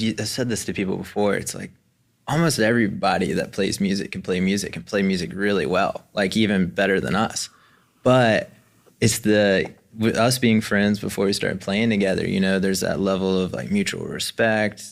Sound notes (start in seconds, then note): none